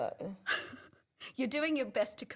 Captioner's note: laughs